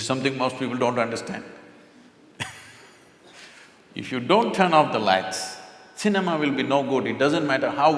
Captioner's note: laughs